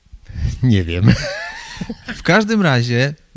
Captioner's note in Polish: śmiech